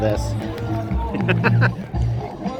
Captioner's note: laughter